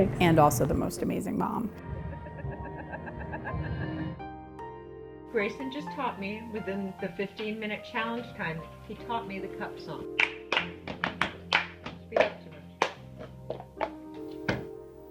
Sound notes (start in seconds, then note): 2.0 laughing; 10.2 clapping and banging